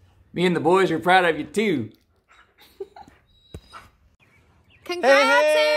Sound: giggling

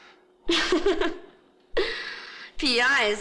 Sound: laughs

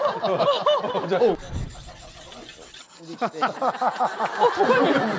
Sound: sharpening

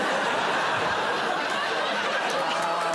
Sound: audience laughing

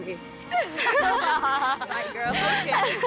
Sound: laughs

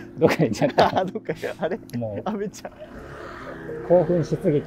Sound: laughing

